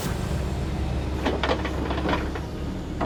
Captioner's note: clanking